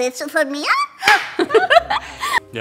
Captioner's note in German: Lachen